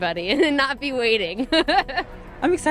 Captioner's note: laughs